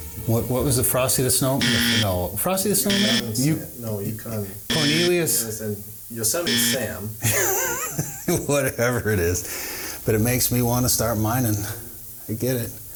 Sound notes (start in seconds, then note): 1.6 buzzer buzzing; 4.6 buzzer buzzing; 7.2 chuckling